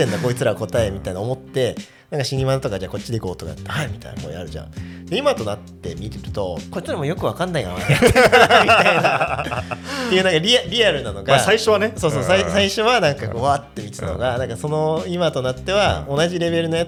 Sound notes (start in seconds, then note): 7.5 laughs